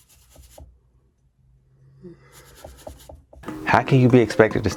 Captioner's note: yawns